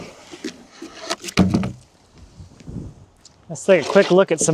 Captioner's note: wood clanging